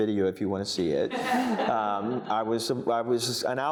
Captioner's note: audience laughing